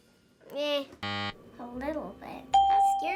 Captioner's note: buzzer; ding